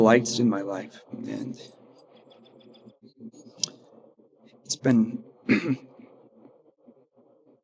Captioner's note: clears throat